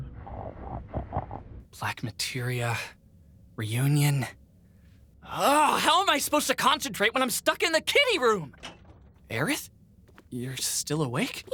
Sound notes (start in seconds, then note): 0.2 Vincent continues snoring; 8.5 door opens